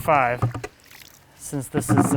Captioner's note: water splashing